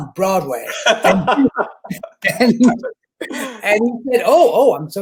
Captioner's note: chuckling laughter